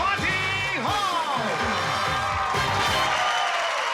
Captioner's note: cheering